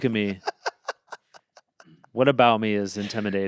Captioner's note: Anthony laughs